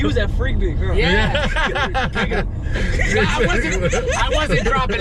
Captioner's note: laughter